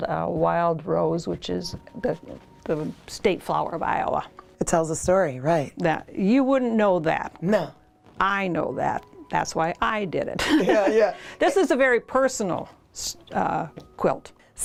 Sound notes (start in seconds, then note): 10.4 laughter